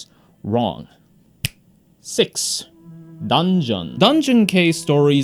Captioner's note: snaps fingers